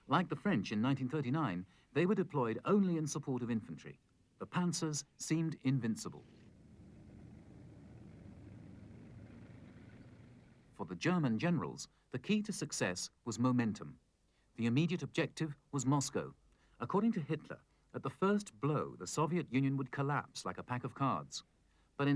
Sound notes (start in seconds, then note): 6.2 tanks driving